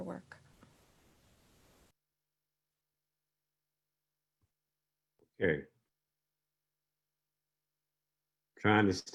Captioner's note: long pause